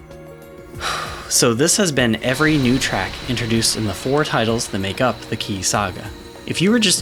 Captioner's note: whew